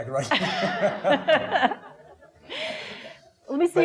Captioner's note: laughing